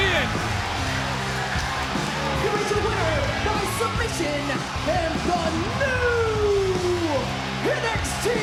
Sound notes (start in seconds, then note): 0.2 rock music; 1.7 announcer speaking faintly off mic